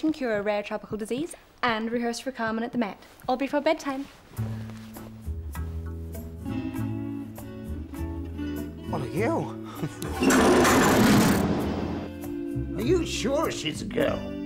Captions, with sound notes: cure a rare tropical disease, and rehearse for Carmen at the Met. All before bedtime. (pleasant music) - What a girl. (gears whirring) - Are you sure she's a girl?